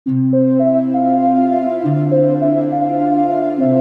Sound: gentle tone

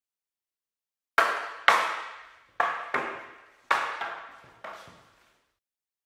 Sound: sound of wooden weapons

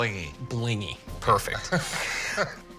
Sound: laughs

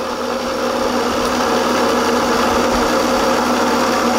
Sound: engines chugging

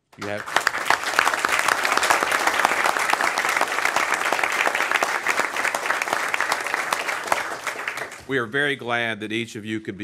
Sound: applause

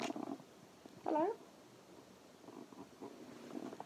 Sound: high pitched voice

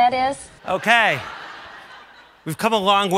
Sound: audience laughs

